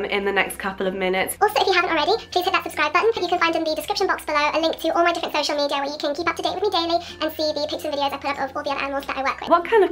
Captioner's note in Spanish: Hablando rápido